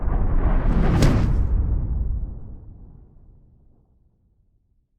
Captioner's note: loud whooshing